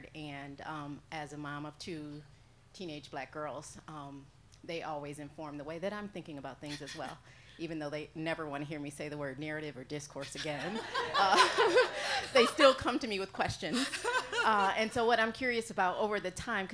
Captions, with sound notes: and as a mom of two teenage black girls they always inform the way that I'm thinking about things as well, even though they never wanna hear me say the word narrative or discourse again. (laughing) They still come to me with questions. And so what I'm curious about over the time,